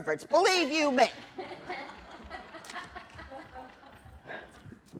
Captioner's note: laughter